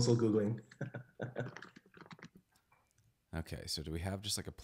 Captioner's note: chuckles